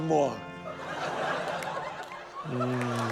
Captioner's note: laughter